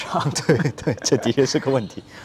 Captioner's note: laughs